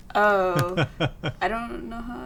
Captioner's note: laughs